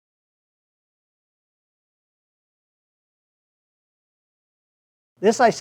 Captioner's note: silence